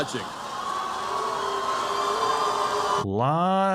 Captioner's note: crowd booing